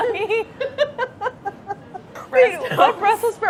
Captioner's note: laughing